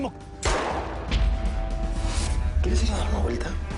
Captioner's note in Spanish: Disparo